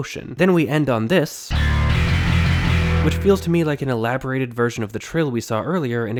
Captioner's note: bang